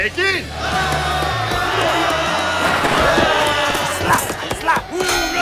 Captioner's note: shouting